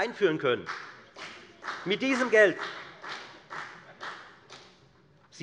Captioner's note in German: Beifall bei der FDP